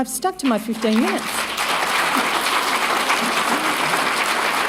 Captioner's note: applause